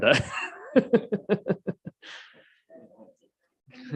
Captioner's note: mayor laughing